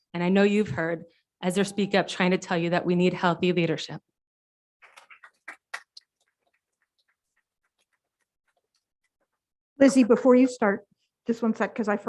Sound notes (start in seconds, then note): 4.9 audience applauding